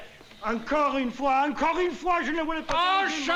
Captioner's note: non-english speech